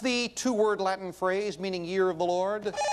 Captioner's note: bell rings